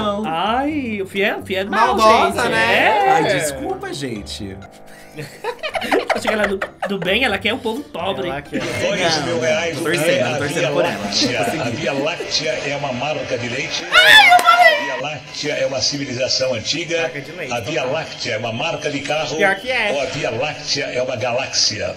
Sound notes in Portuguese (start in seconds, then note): 4.8 risos; 13.9 grita